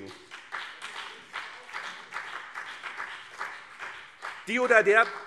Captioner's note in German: Beifall BÜNDNIS 90/DIE GRÜNEN und CDU